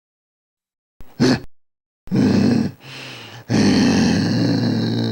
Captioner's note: Groden growls